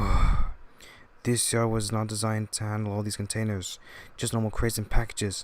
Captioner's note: sigh